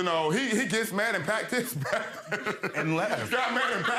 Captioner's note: laughing